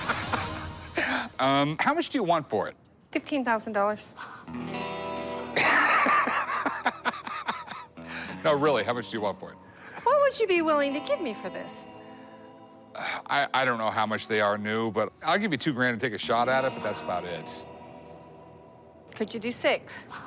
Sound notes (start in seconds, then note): 5.5 laughs